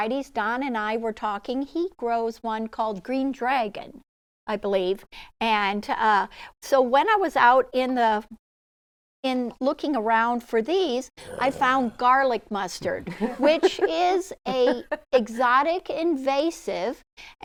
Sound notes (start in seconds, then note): 11.2 growls; 12.9 chuckling